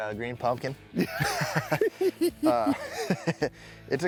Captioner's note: both laughing